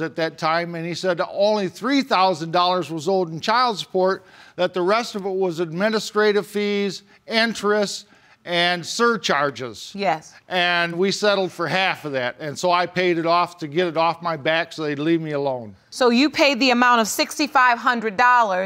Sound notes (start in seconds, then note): none